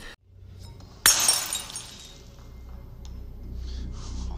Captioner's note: glass shattering